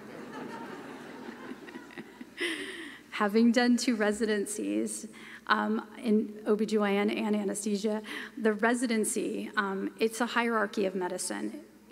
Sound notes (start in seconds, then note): 1.9 laughter